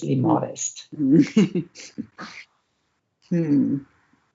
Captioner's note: laughs